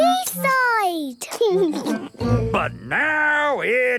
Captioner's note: laughing